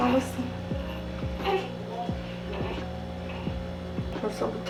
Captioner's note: patting